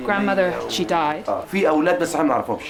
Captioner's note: non-english speech